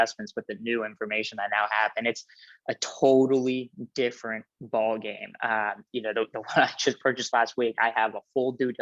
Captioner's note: laughs